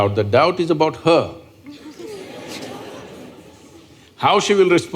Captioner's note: laughter